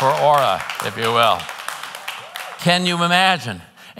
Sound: congregants applauding

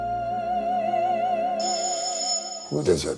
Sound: phone ringing

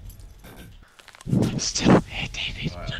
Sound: whispers

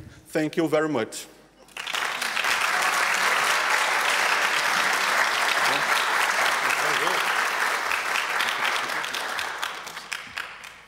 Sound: applause

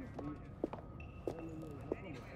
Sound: footsteps

